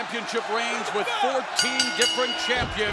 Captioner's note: bells